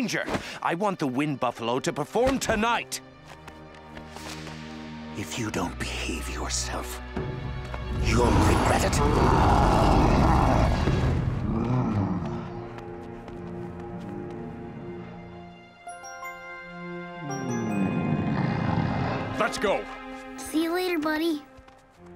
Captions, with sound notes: I want the wind buffalo to perform tonight! If you don't behave yourself... You'll regret it. [roaring] [grunting] Let's go! See you later, buddy.